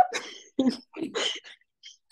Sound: laughter

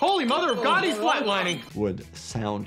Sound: heart monitor beeps

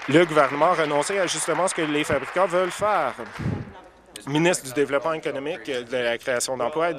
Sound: applause

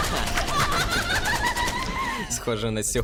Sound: laughs; confused screaming continues

